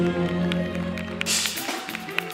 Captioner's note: clapping